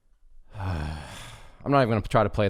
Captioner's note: exhales loudly